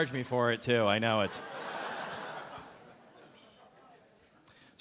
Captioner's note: audience laughing